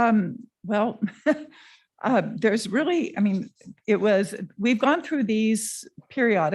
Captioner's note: laughs